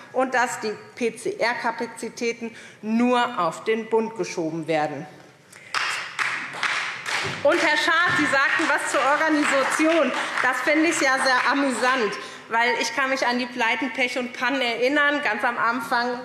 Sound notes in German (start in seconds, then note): 5.6 Beifall SPD